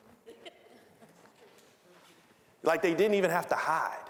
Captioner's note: scattered laughing